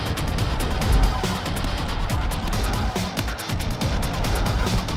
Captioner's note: punches landing